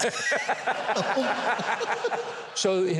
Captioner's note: audience laughs